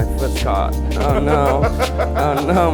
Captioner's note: people laughing